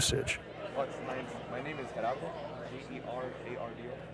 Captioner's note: indistinct chatter